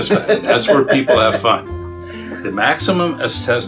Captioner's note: laughs